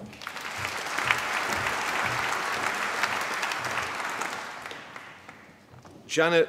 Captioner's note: applause